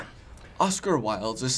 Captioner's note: clears throat